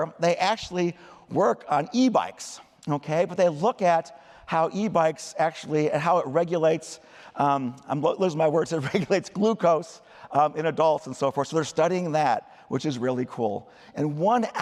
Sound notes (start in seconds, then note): 8.8 laughter